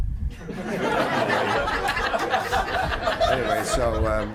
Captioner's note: group laughing